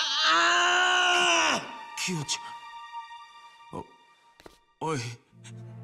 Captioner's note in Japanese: うめき声; 叫び声